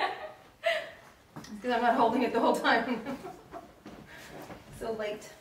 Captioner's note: laughs